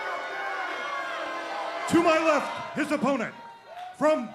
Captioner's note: crowd chatter